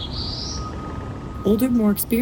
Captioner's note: Black-throated Blue Warbler singing